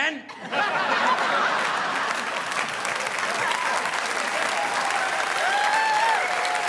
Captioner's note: audience laughing; audience applauding